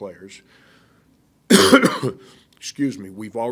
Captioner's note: coughing